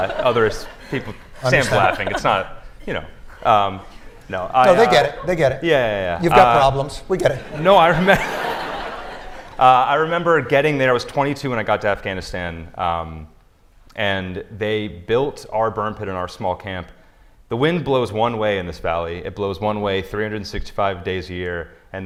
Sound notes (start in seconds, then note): 0.0 laughter; 9.0 laughter